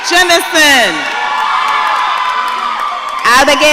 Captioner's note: audience cheering